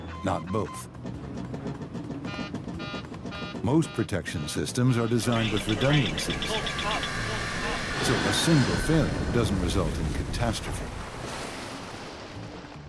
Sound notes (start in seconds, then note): 2.2 alert beeps; 11.0 splash